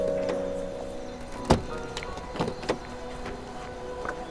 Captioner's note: Car door opens